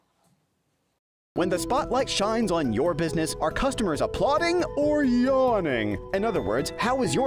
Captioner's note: voice-over